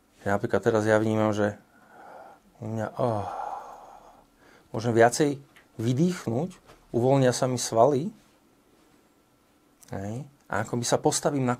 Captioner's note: exhales